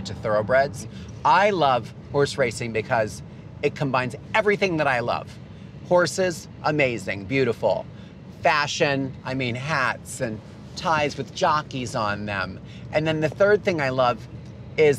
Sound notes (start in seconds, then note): none